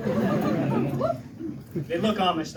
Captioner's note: laughter